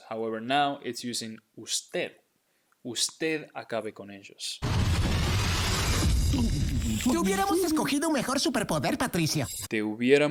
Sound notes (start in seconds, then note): 1.2 speaking in Spanish; 4.6 thunder crashing; 7.3 speaking in Spanish